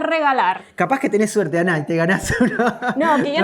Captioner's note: laughs